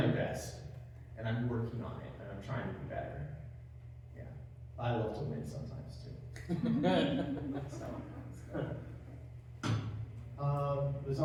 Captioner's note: laugh